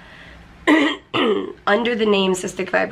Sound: clears throat

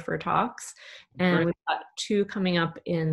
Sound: audio is choppy

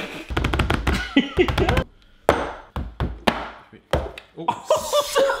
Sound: banging and laughing

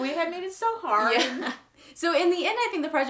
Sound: laughs

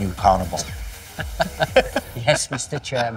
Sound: laughing

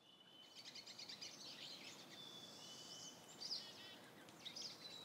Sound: aves trinando

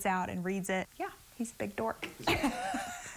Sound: laughs

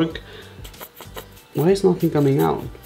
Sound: bottle makes wheezing sound

